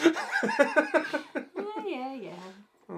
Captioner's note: laughs hysterically